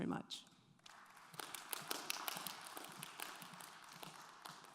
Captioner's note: audience applauds